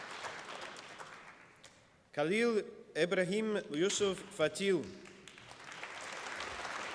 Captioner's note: applause